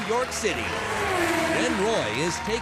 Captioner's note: engine revs